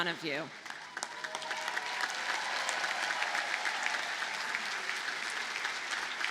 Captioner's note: audience cheers and applauds